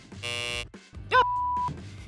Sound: buzzer buzzes

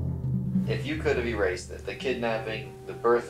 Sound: voiceover

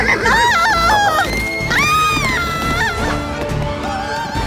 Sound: screaming

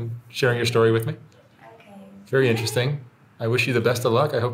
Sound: laughing

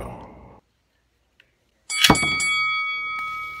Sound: ding Ding Ding

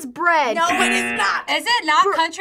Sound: buzzer

